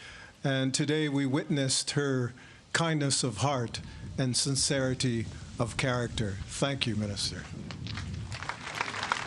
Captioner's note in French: Voix en Anglais